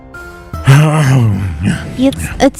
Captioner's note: makes waking up sound